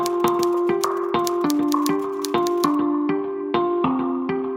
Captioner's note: typing sounds; upbeat music